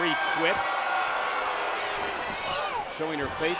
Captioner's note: spectators cheering